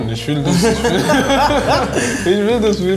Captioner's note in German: Lachen